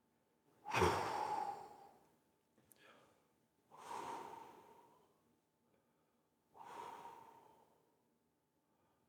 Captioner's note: exhales